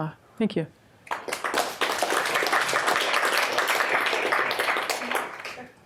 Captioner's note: audience applauds